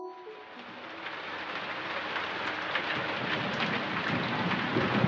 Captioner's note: rain; rain and thunder